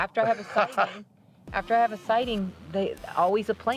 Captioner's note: laughing